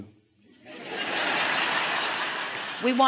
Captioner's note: audience laughing